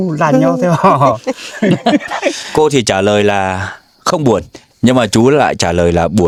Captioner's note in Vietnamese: tiếng cười